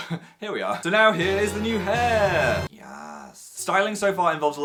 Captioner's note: laughs; quietly